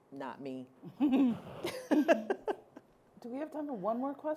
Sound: laughing

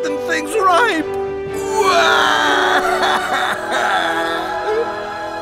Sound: crying

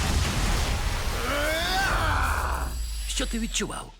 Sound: yells

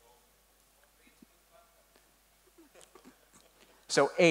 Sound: murmuring

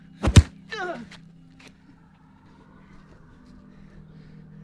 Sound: Loeb grunts in pain

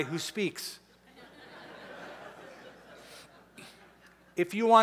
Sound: laughter

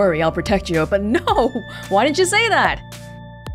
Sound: chuckles

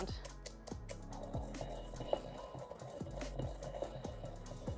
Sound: pestle grinding

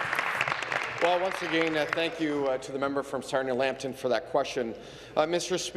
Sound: applause

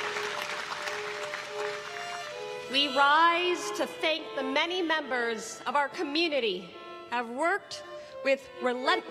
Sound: applause

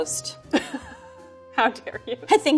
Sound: laughs

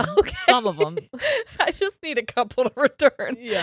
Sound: laughs

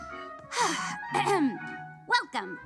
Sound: Charlie clears throat

